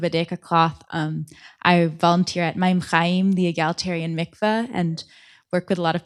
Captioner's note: hebrew